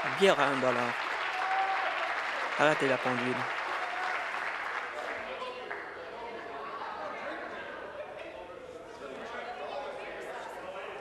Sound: applause

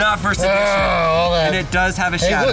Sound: groans

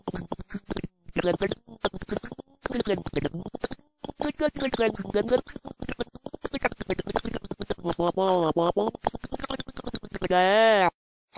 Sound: fricken gross water spit noises

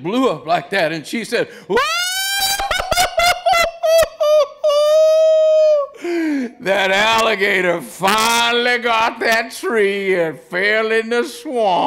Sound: screaming laughter

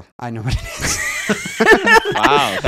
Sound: laughing

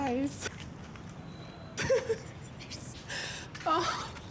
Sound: laughing

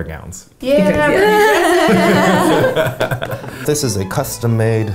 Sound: laughing

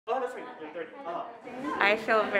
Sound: chatter

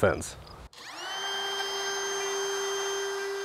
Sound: drilling

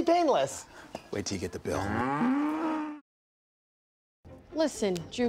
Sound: cow mooing

